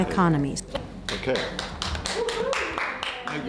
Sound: applause

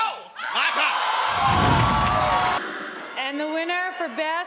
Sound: crowd shouting

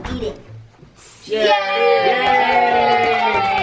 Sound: crowd; claps

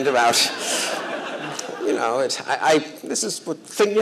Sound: laughter

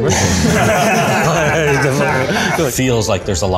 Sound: laughing

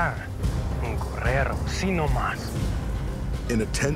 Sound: speaking spanish; speaking spanish

